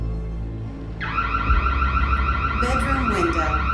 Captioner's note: sirens blaring